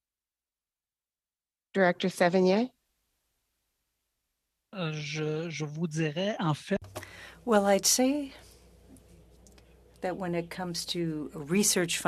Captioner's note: speaking French